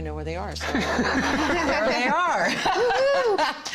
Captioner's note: laughter; laughing